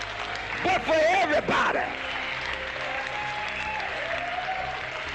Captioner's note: cheering